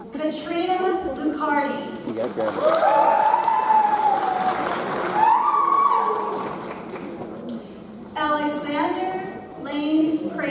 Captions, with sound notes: Katarina Lucardie. (audience cheers) (audience applauds) Alexander Lane Kramer.